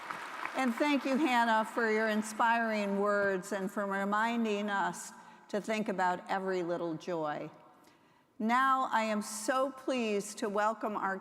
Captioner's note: applause